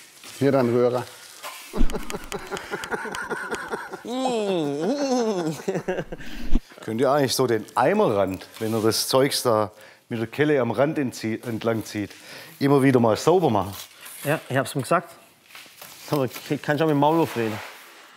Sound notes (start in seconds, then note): 1.7 Lachen; 4.0 Er macht das Geräusch nach